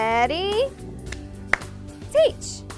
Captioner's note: claps